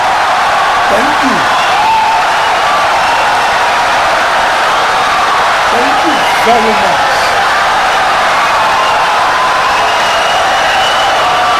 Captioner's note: wild applause and cheering for 17 seconds